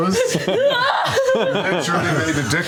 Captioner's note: laughter; yelling